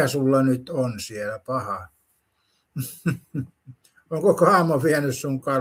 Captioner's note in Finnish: naurua